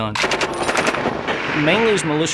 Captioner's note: weapons blast